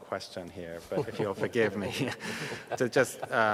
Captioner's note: panelists laughing